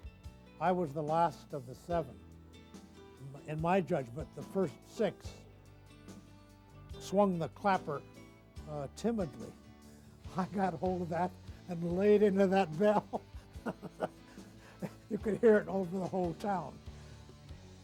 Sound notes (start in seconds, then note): 12.7 laughs